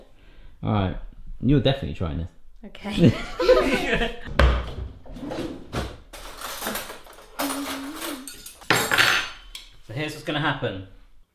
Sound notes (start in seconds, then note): 3.0 laughing